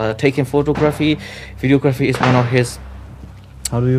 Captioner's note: shots